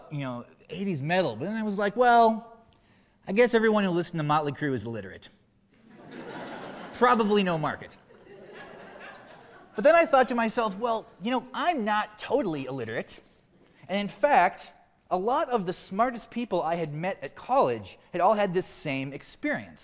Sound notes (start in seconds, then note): 8.0 laughter